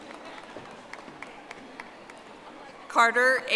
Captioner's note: audience applauding